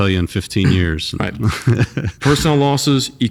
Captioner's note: laughs